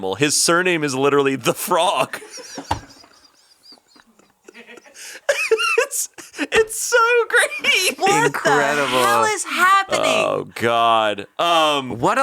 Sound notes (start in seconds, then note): 1.9 all laughing